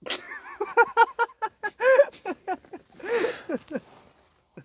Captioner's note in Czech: smích